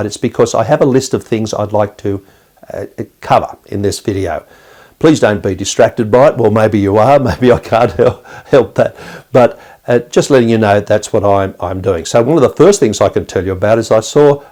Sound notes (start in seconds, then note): 7.2 chuckles